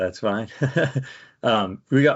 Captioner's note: laughs